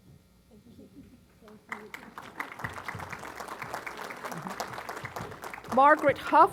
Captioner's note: applause